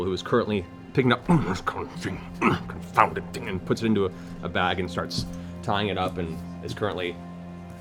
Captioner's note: grumbling